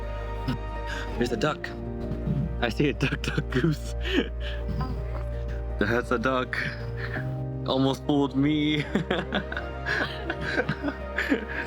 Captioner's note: laughs